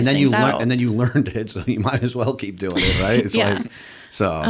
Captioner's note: chuckle